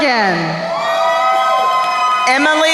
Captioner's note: crowd cheering